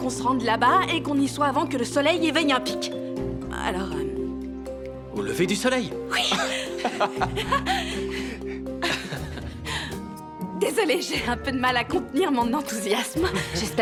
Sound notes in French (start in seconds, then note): 6.1 rires; 8.5 rire nerveux